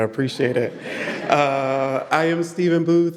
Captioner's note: audience laughing